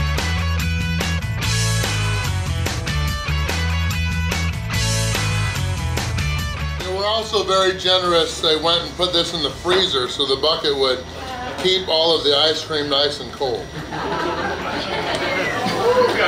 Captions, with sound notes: They were also very generous. They went and put this in the freezer so the bucket would keep all of the ice cream nice and cold! (laughter)